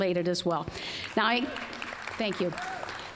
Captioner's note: applause